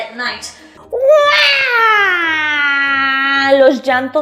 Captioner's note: Llantos